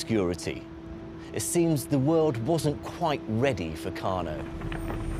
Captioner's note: fire crackling